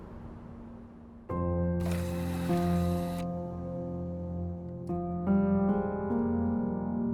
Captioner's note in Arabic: صوت جهاز العرض